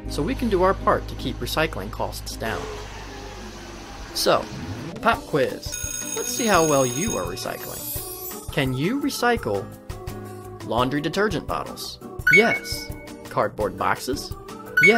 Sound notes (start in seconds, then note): 5.7 bell rings; 12.2 beeps